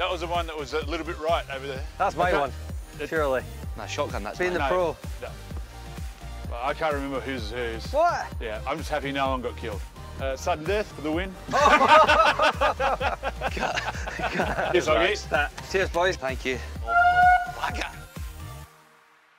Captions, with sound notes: That was the one, a little bit right over there. >>That's my one, surely. >>No, shotgun that's mine! Well I can't remember whose is whose. >> What?! >>I'm just happy no-one got killed. Sudden death, for the win? (Laughter) Cut! Cheers Hoggy. >>Cheers boys. >>Thank-you. (Loud horn) Wagga!